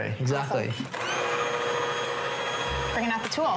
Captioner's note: running blender